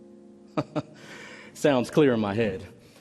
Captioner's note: he chuckles